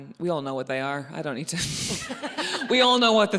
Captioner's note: laughs